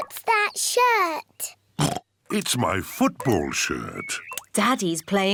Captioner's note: oinks; oinks